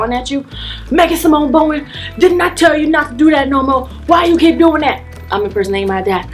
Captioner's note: deep voice